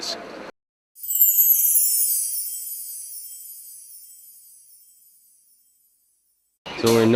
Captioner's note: sparkle noises